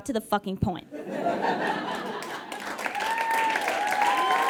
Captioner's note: audience laughs, then cheers and applauds